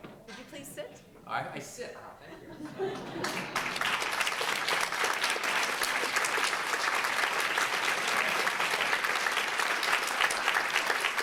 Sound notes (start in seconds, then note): 3.0 applause